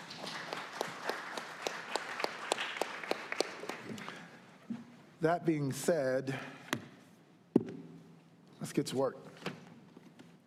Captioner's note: applause